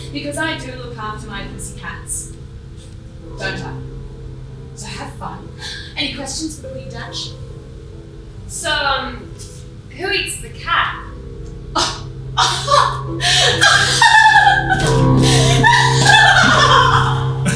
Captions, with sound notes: Because I do look after my pussycats. Don't I? So have fun! Any questions before you dash? So, ummm.... who eats the cat? [Laughs]